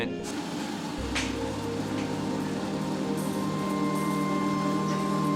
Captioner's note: treadmill whirring over dramatic electronic music